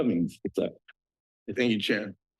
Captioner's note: laughs